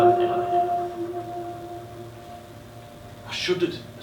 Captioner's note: voice over ends, SFX drone continues